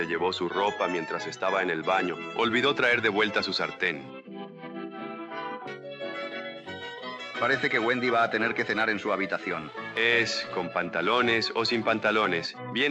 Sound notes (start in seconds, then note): 4.6 lucky laughs